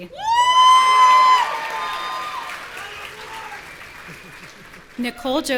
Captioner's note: audience cheering and shouting